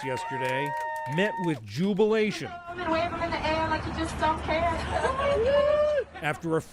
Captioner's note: applause